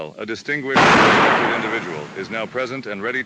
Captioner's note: gunshot